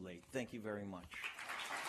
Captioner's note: applause